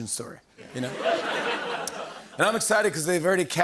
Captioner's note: laughter